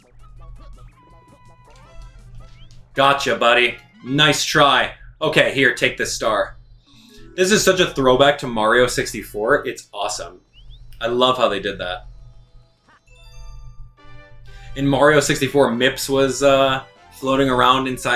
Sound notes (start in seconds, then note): 13.0 Power Star chimes; 14.0 triumphant music